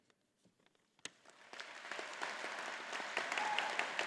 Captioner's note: all applauding